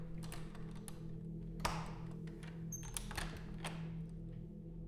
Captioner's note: door unlocking